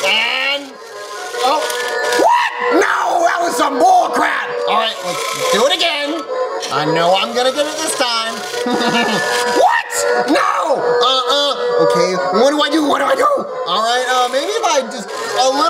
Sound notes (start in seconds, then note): 8.3 laughs